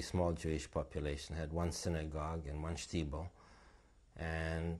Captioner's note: non-english